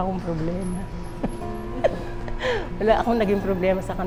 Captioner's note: laughs